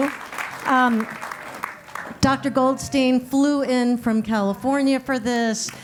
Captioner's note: applause